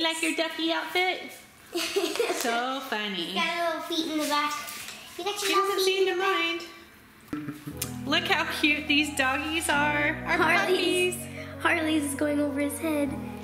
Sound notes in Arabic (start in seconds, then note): 1.7 يضحك